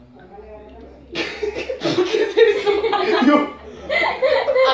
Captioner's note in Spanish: Risas